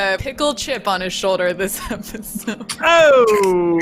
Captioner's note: laughs